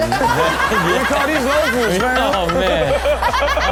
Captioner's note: co-host laughs